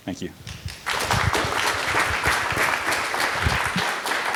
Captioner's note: applause